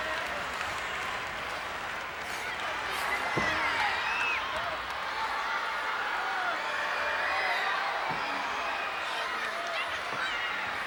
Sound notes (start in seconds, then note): 6.2 audience cheers